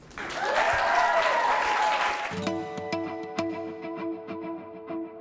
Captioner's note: applause